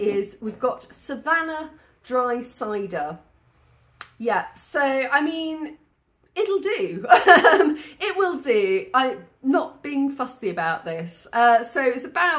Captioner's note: laughing